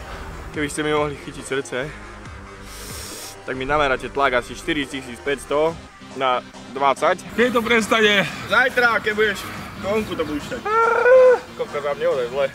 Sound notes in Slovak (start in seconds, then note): 10.6 hlboký mužský výkrik